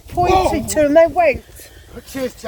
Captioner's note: yells